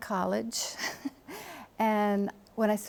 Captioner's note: chuckles